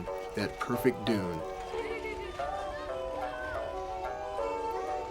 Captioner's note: children laughing, speaking indistinctly